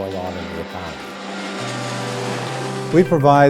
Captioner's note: airplane engine roars